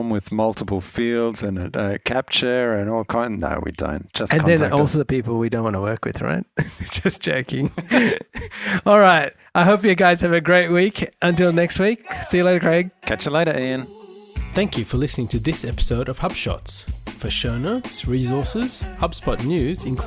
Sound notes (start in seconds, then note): 6.6 laughs